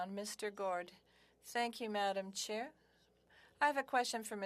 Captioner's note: speaking French